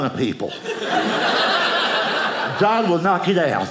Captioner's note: audience laughing